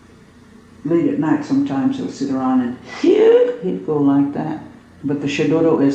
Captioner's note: makes a loud inhale noise